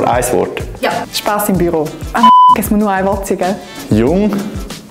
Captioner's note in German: piep